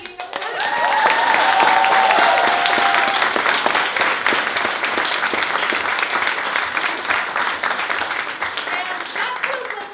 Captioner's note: applause